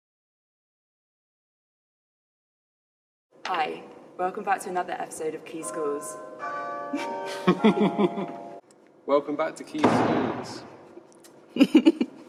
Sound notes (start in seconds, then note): 5.6 bells chime; 6.9 laughter; 9.7 door slams; 11.5 laughter